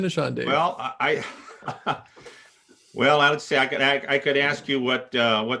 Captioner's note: laughing